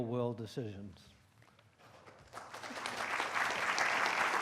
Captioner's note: applause